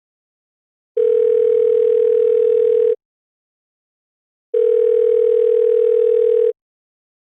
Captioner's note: dial tone